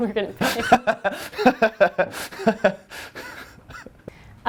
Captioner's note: laughter